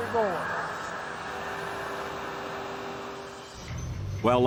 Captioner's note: machines whirring